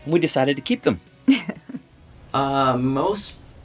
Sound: laughing

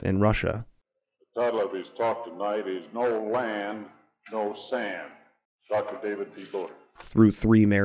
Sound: man speaking on recording

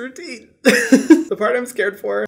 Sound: Hyram laughing

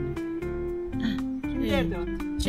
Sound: sighing

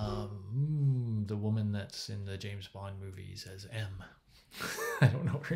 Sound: laughs

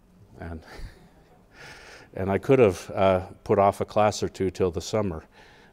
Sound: laugh

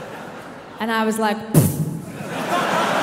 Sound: imitates explosion; audience laughing

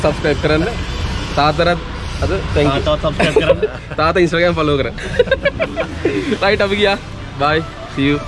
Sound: laughing

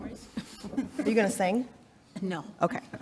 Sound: chuckling

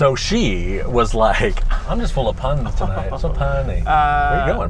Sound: laughs sarcastically

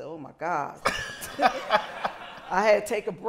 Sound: laughter

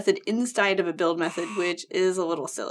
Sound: buzzer

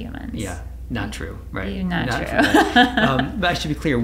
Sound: laughs

